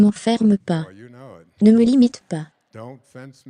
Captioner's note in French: rire de l'audience